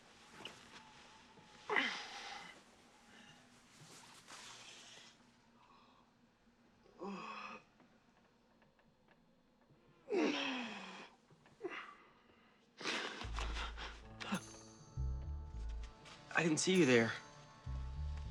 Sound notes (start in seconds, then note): 6.9 yawns; 12.0 gasps